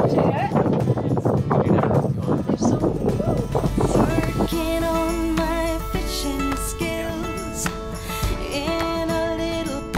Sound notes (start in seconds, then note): 4.7 sail equipment clicking